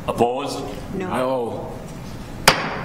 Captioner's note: multiple Voices